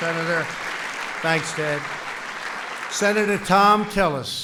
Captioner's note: applause